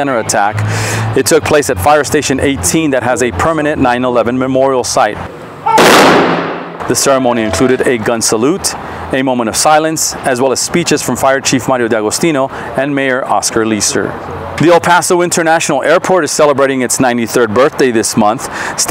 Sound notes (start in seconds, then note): 5.7 gun fires